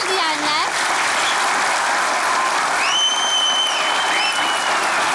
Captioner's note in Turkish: Alkış ve ıslık sesleri